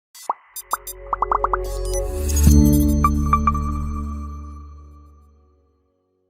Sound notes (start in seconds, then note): 0.2 gentle electronic music; 1.1 bubbles popping